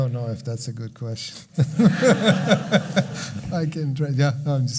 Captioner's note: laughing